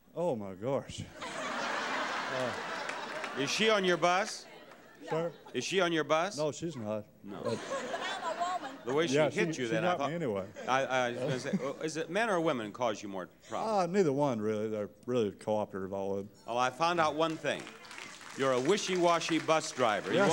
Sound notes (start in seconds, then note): 1.2 audience laughing